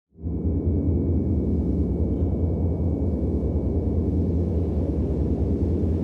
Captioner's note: light wind whirling